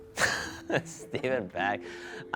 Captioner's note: laughs